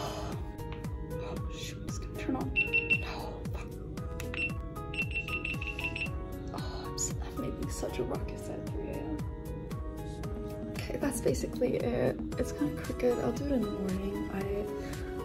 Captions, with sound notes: oh shoot it's gonna turn on *really loud beeping* i'm making such a ruckus at 3 am kay that's basicallly it, it's kinda crooked, i'll do it in the morning